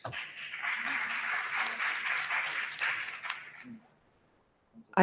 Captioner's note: audience applauding